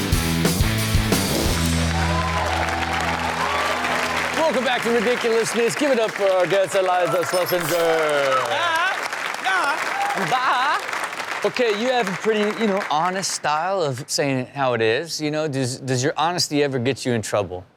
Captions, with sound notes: (upbeat rock music) (audience cheers and applauds) - Welcome back to "Ridiculousness." Give it up for our guest, Iliza Shlesinger. (audience applauds) Okay. You have a pretty, you know, honest style of saying how it is, you know. Does your honesty ever get you in trouble?